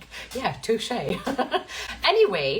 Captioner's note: giggles